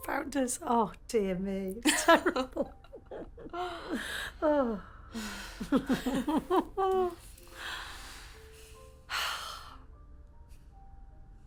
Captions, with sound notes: and Frank does, oh, dear me. (chuckles) (gentle piano music)